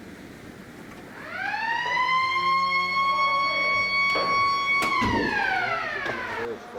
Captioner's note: siren sound